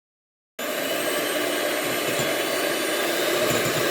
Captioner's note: mixer whirring